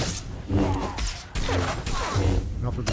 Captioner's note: gunshots